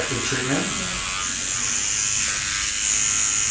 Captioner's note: pen buzzes